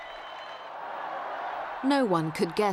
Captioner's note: crowd cheering